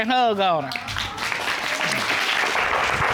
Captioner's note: audience applauding, cheering